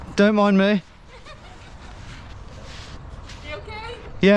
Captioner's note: passerby laughing